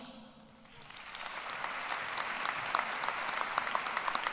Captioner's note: applause